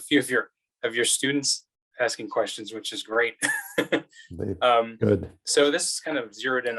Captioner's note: laughs